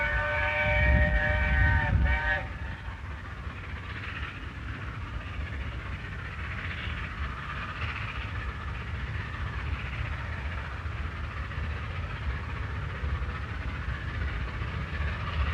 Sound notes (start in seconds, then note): 3.1 train passes